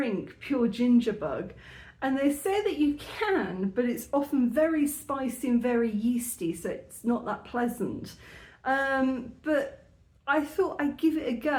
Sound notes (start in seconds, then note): none